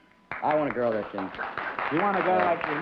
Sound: applause

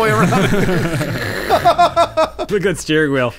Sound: laughing

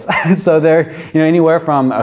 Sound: chuckles

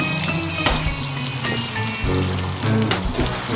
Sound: spitting

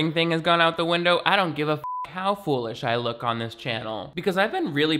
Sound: beep

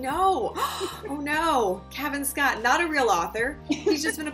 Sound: gasp

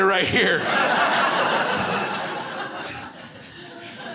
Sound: crowd laughs

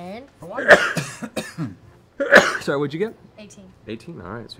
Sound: sneezes

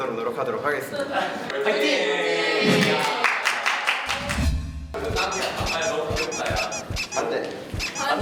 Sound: applause

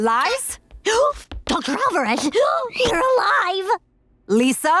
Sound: gasping

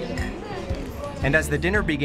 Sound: glasses clinking

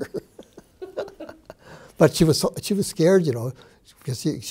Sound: chuckles

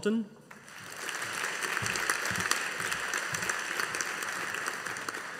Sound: audience applauding

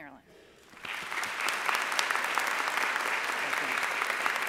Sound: audience applauding

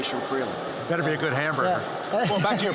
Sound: laughs

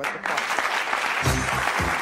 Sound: applause; upbeat music

